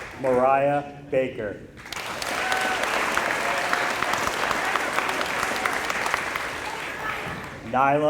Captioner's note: applause